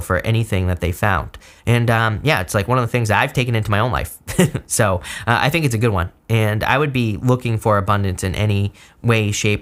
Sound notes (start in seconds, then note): 4.2 chuckles